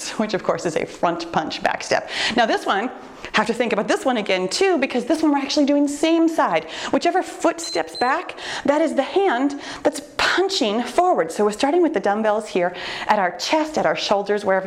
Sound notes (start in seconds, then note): 7.6 timer beeps